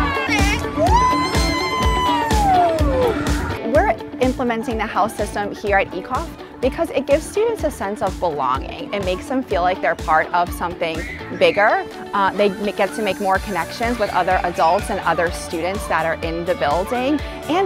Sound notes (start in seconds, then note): 0.0 children and teachers chanting together; 1.0 teacher yelling excitedly